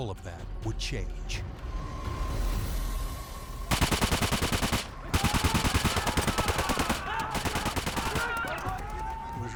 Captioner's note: gun shots, men yelling